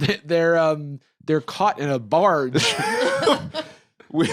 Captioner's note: laugh